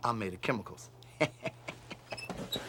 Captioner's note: <i> chuckling</i>